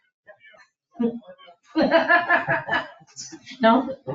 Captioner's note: laughs